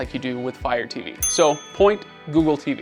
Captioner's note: bell dings